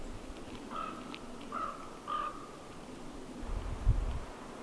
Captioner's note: bird squawking